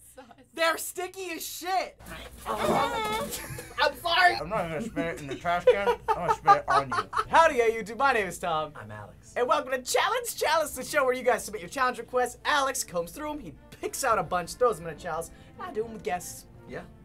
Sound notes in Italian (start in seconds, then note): 2.0 mormora